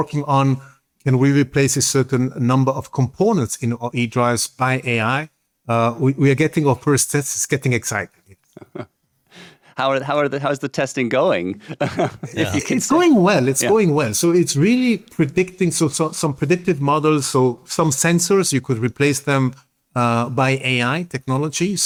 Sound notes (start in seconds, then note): 8.3 chuckles; 11.7 laughs